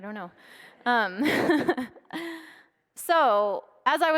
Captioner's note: laughs